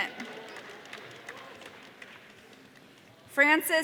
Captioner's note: audience applause